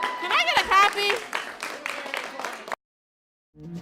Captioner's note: applause